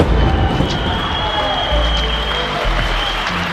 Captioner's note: cheering